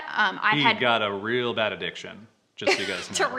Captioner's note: laughs